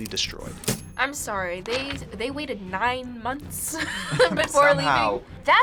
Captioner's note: laughs